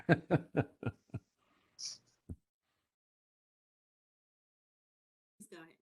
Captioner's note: laughs